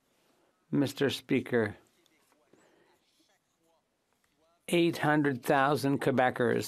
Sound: speaking French

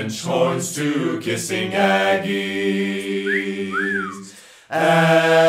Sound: whistle

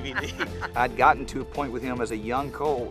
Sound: laughing

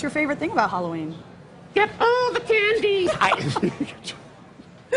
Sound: laughter

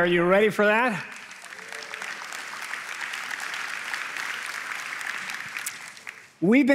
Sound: applause

